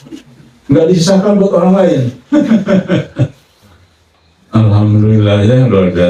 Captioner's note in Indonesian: tertawa